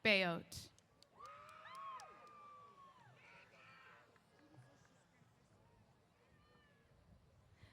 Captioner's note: cheers